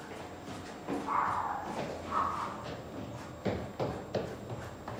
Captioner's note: dog barking